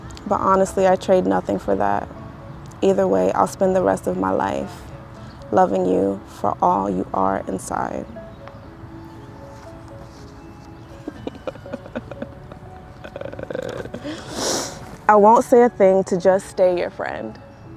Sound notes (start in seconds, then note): 9.6 gentle poignant music; 11.0 participant laughing